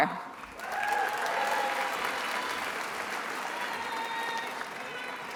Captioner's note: attendees applauding